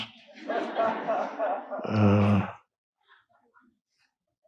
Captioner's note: audience laughing